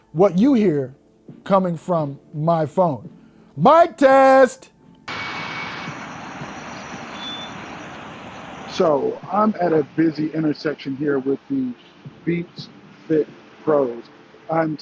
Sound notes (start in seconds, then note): 5.2 air hissing